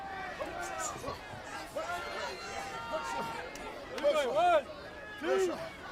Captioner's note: crowd chatter